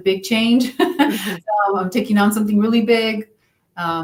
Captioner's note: laughs